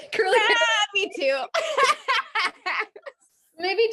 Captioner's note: both laughing